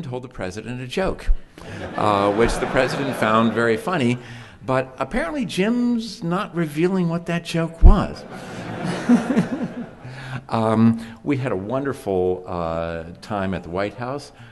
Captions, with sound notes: Which the President found very funny. But apparently Jim's not revealing what that joke was [chuckles]. We had a wonderful time at the White House.